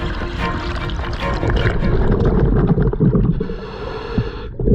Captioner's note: oxygen mask hissing; water sloshing